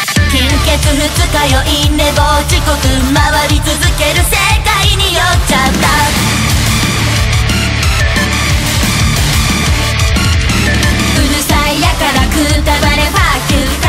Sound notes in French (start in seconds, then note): 5.5 son explosif, référence à la musique certainement